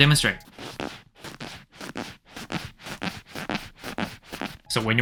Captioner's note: fart